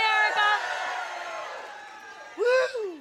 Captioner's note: cheers